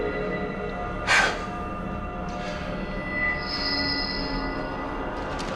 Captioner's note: exhales sharply